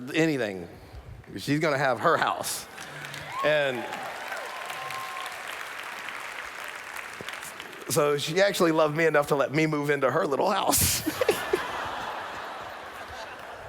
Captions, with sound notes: anything. She's gonna have her house. [Applause] So, she actually loved me enough to let me move into her little house. [Laughter]